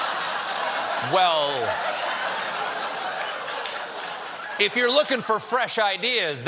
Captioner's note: laughter